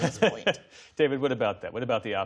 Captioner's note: laughter